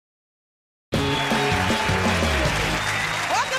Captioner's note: cheers and applause